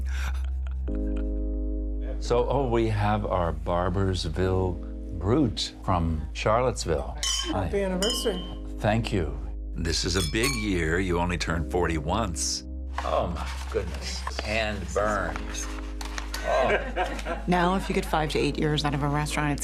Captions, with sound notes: So oh, we have our Barboursville Brut from Charlottesville. (glasses clinking) >>Happy anniversary. >>Thank you. This is a big year, you only turn 40 once. Oh, my goodness, hand-burned. Oh. (everyone laughing) >>Now if you get five to eight years out of a restaurant,